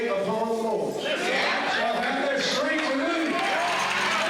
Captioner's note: cheering